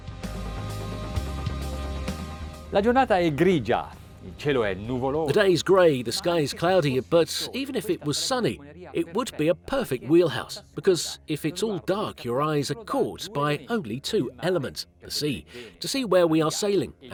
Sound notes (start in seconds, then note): 0.3 relaxing music; 2.9 speaking in foreign language